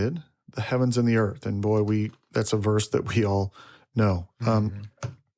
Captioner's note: chuckles